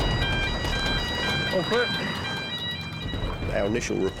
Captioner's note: sirens blaring continues